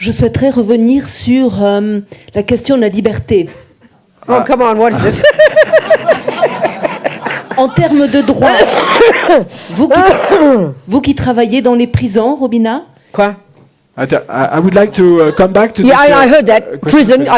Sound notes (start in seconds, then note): 4.9 laughter; 6.1 speaking in French; 8.1 coughing; 9.1 speaking in French